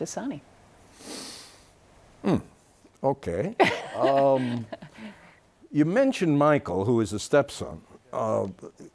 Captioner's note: laughs